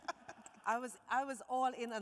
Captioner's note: host laughing